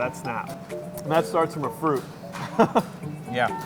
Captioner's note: chuckles